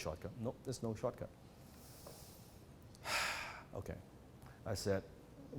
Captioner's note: sighs